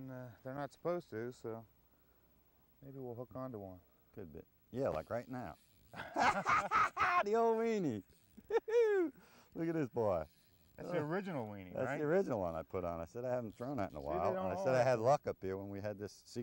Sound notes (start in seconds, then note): 5.9 laughter